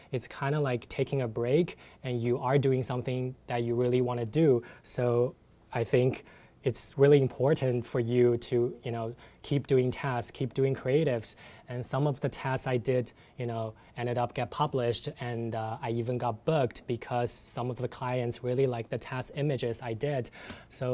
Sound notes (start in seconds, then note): none